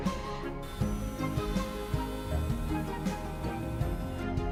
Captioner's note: metal clanks; machine whirring